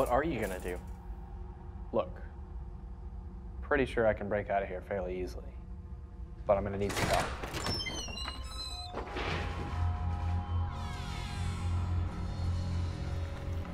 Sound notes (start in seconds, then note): 7.0 door squeaks; 10.9 ominous music